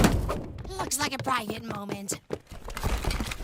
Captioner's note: whispering